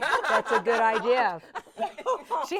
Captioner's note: everyone laughing